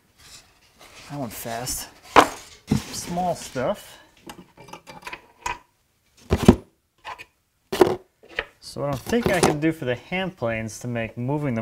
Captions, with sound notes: That went fast, (box dropping) Small stuff. (metal clinking) (metal thumping) So I think I can do for the hand planes to make moving them